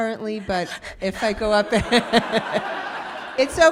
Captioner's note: audience laughing